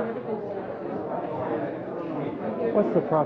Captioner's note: none